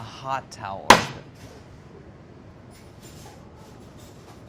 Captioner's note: pan slams